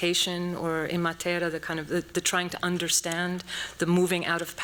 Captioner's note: non-english speech